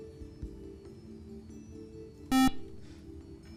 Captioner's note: buzzer